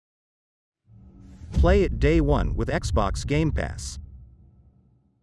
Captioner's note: dramatic sound